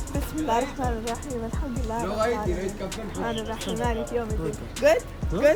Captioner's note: Begins reciting from the Quran